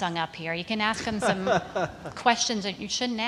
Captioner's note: laughter